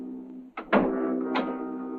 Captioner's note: ominous music; door closes